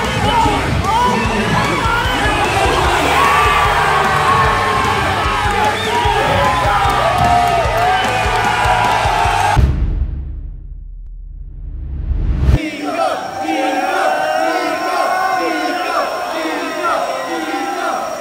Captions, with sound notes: (crowd cheering) - [Crowd] Niko! Niko! Niko! Niko! Niko! Niko! Niko! Niko!